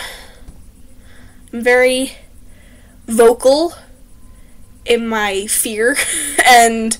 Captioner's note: laugh